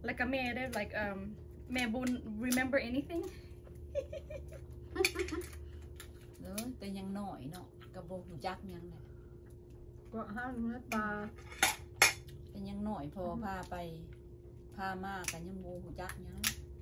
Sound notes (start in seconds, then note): 3.9 laughs